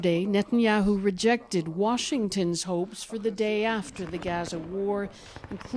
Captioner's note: speaking alternate language